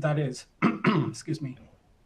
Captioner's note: clears throat